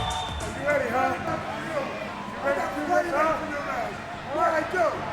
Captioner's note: upbeat music; wrestlers chattering